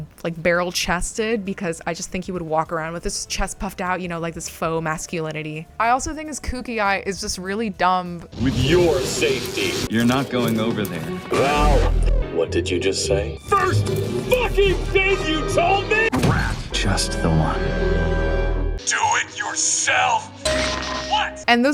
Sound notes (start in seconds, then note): 8.4 shwwoooom; 11.8 wamwamwmumummm; 15.6 hypnosis noises i guess